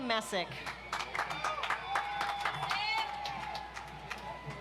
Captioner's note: audience applauds